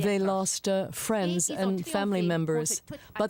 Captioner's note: speaking French